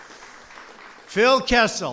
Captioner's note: applause